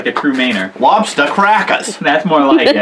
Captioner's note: new England Accent